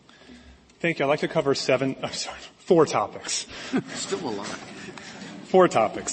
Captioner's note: laughter